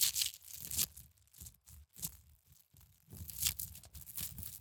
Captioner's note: crinkle crinkle